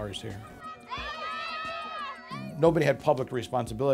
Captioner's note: kids shouting